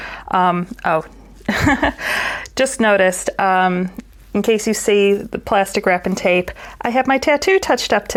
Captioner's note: laughs